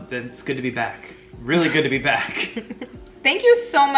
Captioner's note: laughing quietly